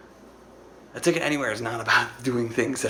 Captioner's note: laughs